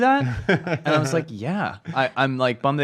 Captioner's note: laughs